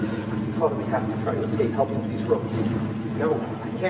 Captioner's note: truck motor sounds; truck motor sounds